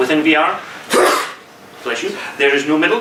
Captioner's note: man sneezes